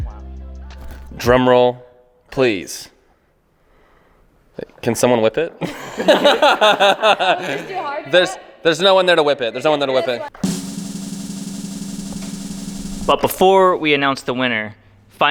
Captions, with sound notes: - Drum roll please. Can someone whip it. (all laughing) - There's no one there to whip it, there's no one there to whip it. (drum roll playing) - But before we announce the winner,